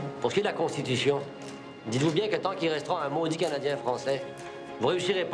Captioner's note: Rene speaking in foreign language